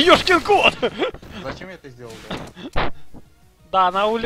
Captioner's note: laughter